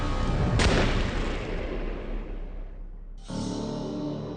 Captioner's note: gunshot bangs; somber music